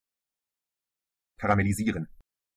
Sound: fast Pronunciation

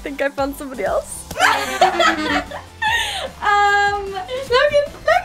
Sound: laughs

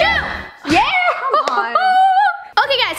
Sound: celebratory shout

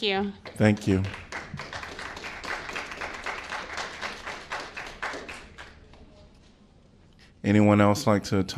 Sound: applause

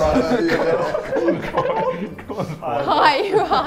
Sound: Sidemen laugh

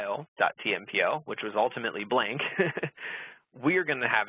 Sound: laughs

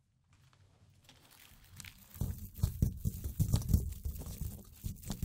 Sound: rapid thumping

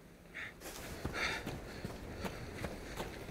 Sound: panting

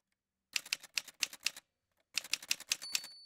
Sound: typewriter sounds

